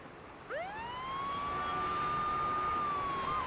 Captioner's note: sirens